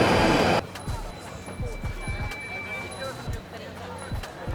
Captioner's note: light chatter